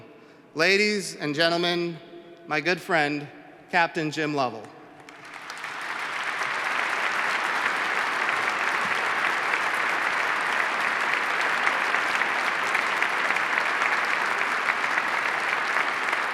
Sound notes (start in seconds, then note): 5.0 applause